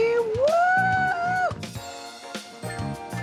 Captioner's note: cheers